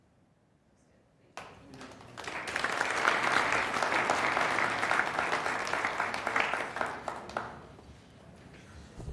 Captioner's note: applause